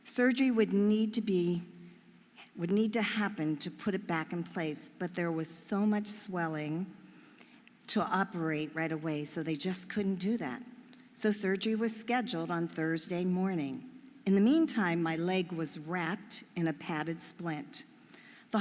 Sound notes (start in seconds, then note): none